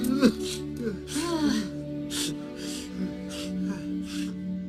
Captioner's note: groaning